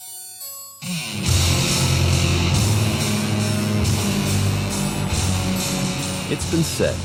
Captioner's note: heavy metal music; engine roars